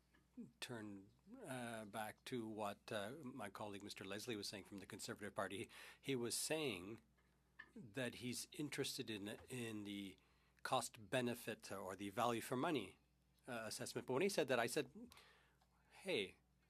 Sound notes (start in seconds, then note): 12.8 speaking French